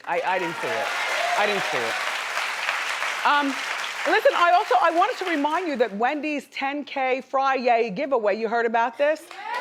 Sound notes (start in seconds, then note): 1.6 audience applauding